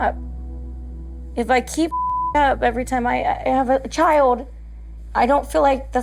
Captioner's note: beep